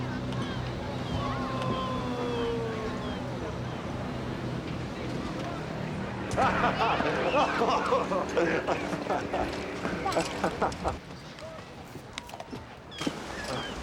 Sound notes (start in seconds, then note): 6.3 laughter